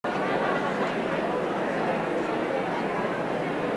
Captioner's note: audience murmuring